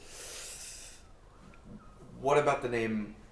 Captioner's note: Anubis inhaling